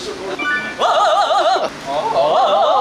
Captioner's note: vocalisation/vocal warmups; vocalisation; vocal warmups prior to rehearsals; vocalisation; vocal warmups prior to rehearsals